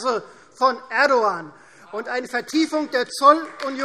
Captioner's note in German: Beifall Freie Demokraten und DIE LINKE